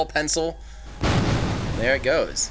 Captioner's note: splash